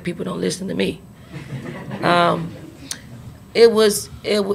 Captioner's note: reporters laugh